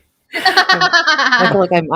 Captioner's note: laughs